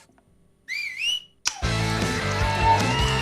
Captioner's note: whistle; click